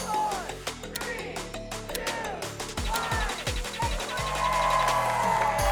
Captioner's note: all cheering